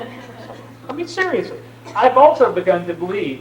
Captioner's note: laughter